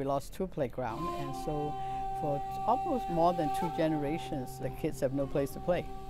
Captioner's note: pope speaking